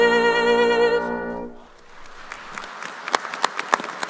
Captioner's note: applause